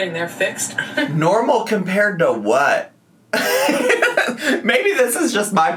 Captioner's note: laughs